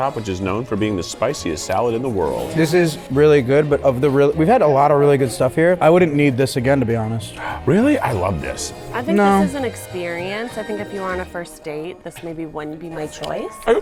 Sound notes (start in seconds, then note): 7.3 gasps